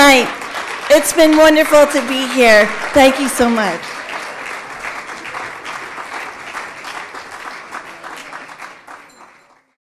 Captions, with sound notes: It's been wonderful to be here. Thank you so much. [audience clapping]